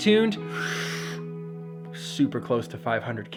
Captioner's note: inhales